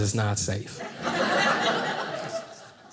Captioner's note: audience laughing